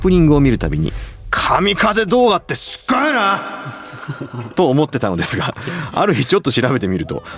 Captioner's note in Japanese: 笑い